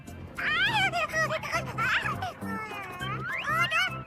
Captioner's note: Komasaburo laughs